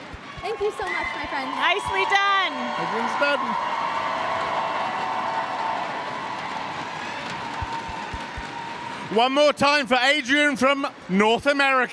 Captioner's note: cheers and applause